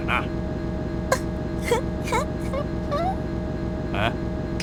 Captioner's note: maniacal giggle